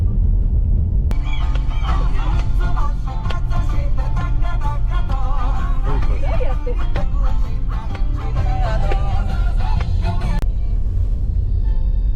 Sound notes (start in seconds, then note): 5.8 laughs